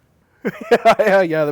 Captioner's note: laughing